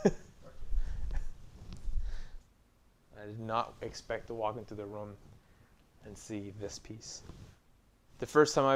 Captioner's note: laughing